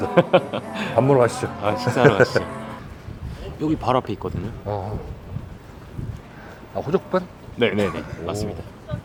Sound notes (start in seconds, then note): 1.8 excited laugh